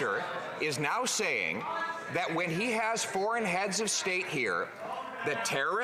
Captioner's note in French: voix de l'interprète